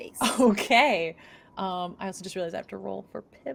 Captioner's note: chuckles